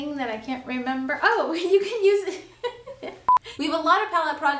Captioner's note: laughs; beeps